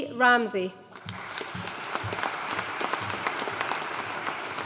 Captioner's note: audience applauding